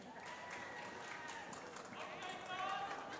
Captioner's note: applause